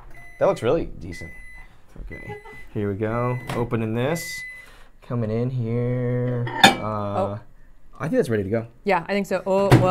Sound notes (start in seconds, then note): 2.0 microwave beeps; 6.4 cups clanking